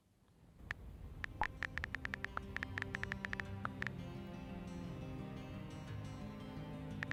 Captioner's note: guitar music; typing sounds